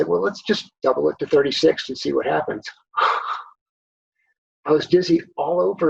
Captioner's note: laughs